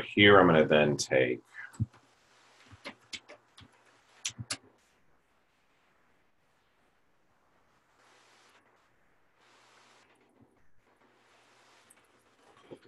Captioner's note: typing Sounds